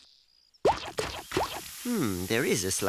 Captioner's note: sizzling